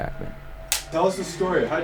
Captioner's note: clacker clacking